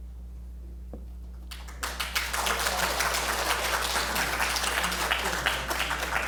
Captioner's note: applause